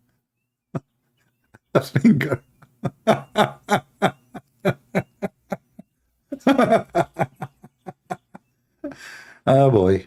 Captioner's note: Ketawa